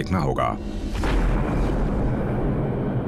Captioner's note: explosion blasts